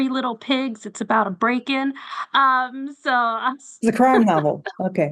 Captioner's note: chuckles